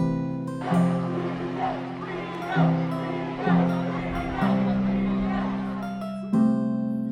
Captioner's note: crowd chanting